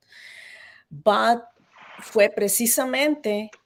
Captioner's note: speaking Spanish